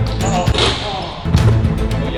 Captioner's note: upbeat orchestral music; ball hits rim; upbeat orchestral music